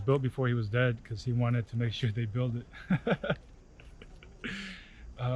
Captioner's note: laughs